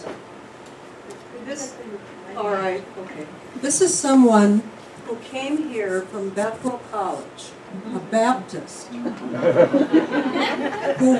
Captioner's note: laughter